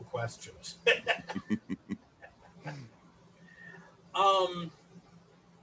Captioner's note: laughter in chorus